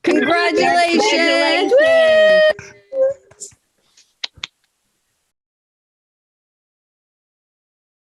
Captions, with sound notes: - Congratulations. - Congratulations. (cheers)